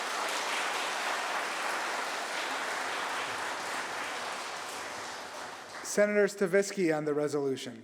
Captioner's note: applause